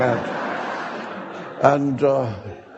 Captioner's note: audience laughing